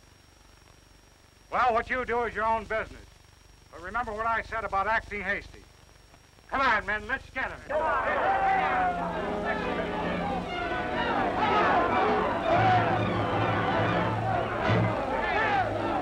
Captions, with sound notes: Well, what you do is your own business. But remember what I said about acting hasty. Come on, men! Let's get them! [shouting]